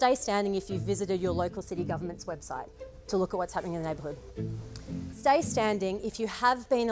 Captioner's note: none